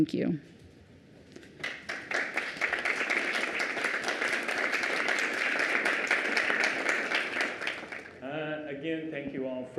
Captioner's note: applause